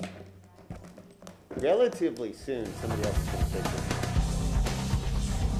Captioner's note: sounding gavel